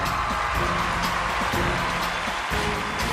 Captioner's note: cheers and applause